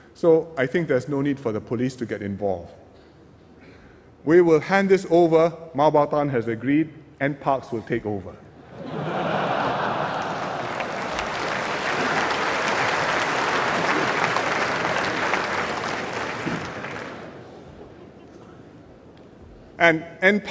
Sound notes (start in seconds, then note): 9.6 applause